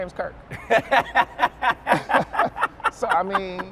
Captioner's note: laughs